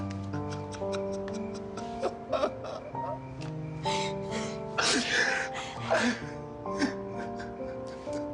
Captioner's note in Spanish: Sollozos